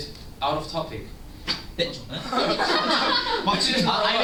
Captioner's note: laughter